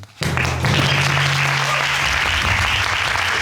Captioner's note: audience applauding